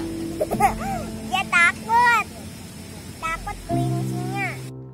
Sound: laughed

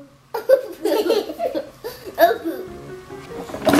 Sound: laughs

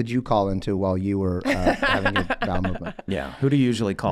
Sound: Meg laughing

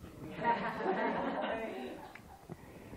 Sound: laughter

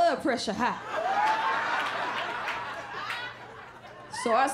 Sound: laughter

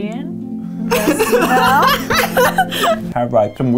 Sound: both laughing

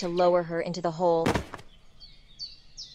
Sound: thud

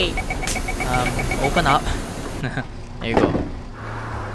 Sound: nervous laughs

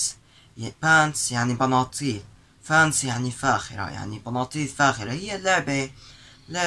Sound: translating in Arabic

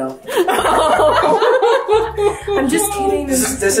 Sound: everyone laughs

